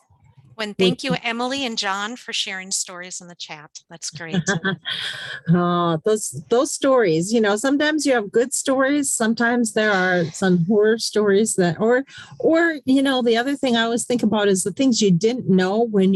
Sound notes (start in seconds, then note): 4.1 laughs